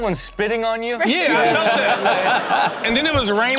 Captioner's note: laughs